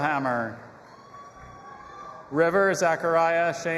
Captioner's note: audience applauding and cheering